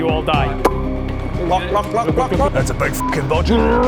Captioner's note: glug glug glug glug glug